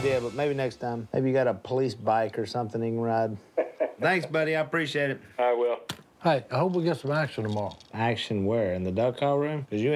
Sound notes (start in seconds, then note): 2.6 on phone; 3.5 laughs; 4.3 on phone